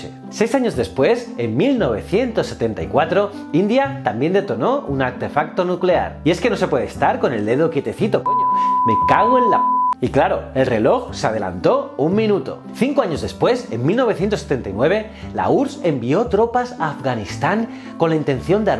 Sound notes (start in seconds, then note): 8.2 pipppp